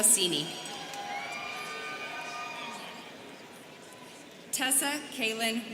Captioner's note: students cheering